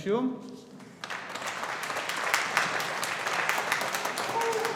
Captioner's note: audience applauding